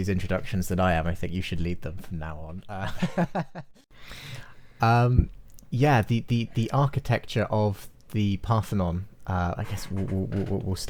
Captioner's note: laughs